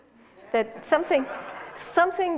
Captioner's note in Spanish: Risas